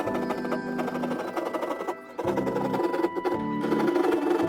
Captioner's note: sawing